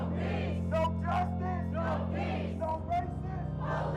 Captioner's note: chanting